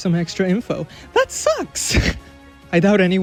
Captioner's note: laughs